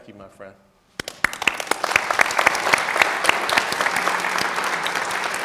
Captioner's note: audience clapping